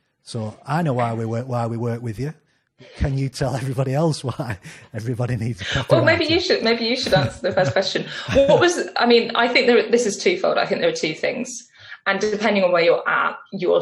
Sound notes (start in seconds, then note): 3.5 laughs; 5.9 laughs; 8.5 laughs